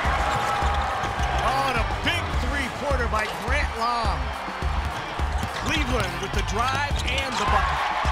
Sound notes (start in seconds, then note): 0.3 cheering; 4.9 cheering